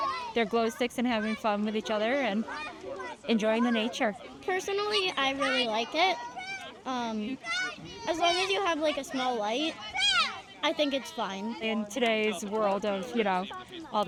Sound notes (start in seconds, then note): 6.1 indistinct shouting